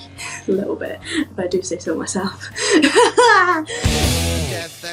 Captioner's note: laughs